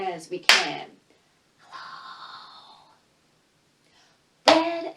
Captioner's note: whispers